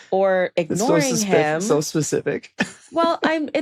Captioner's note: chuckles